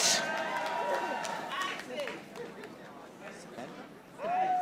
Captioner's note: audience applauding